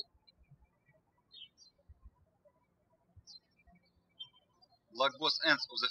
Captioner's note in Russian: птички щебечут